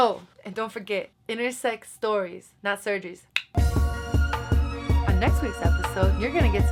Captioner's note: clicks teeth